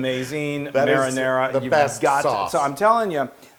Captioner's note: laugh